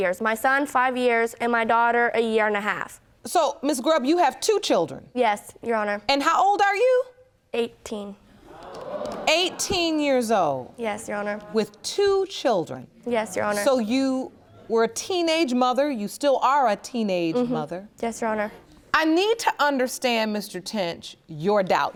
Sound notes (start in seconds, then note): 8.4 audience gasping